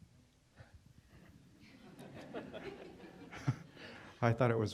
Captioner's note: laughter